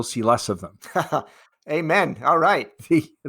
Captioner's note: chuckles